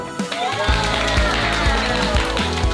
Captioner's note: applause